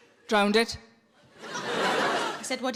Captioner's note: audience laughs